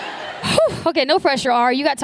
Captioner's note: laughter